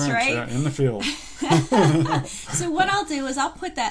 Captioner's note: laughing